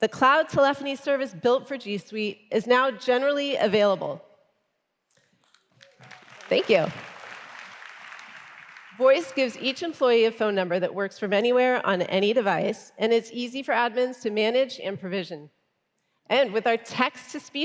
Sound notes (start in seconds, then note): 5.7 applause